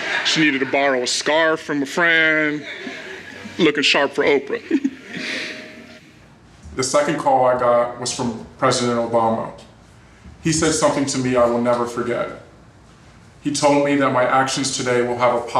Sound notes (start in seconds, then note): 2.2 laughs